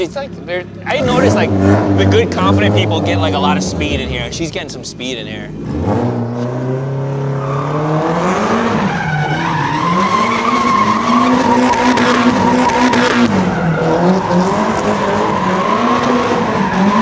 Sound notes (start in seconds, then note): 5.9 engine revving; 5.9 tires screeching